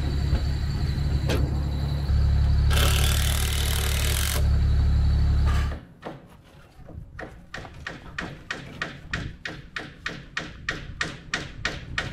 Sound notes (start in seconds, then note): 2.6 machine drilling; 2.7 machine engine rumbling continues; 5.5 hammer banging